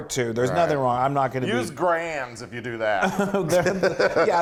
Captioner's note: laugh